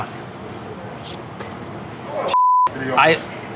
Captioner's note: knife slides